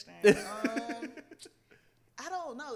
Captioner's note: laughs